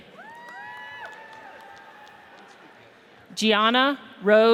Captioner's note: audience cheers